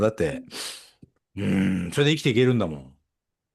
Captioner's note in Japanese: 鼻息